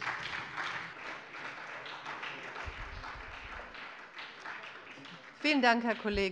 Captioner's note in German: Beifall bei der SPD